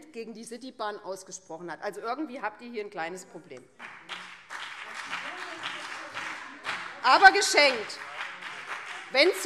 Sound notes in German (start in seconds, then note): 4.0 Beifall BÜNDNIS 90/DIE GRÜNEN - Zuruf Freie Demokraten - Unruhe - Glockenzeichen